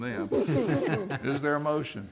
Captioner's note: laughter